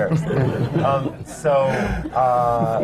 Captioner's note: laughter